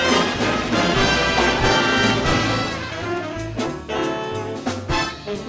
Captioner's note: audience applauding